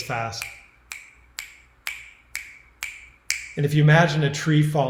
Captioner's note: snapping